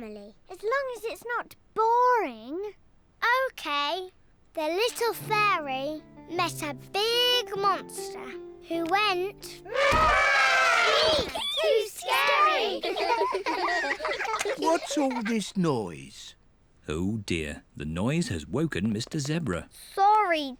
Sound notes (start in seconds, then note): 9.6 trumpets; 12.3 all laughing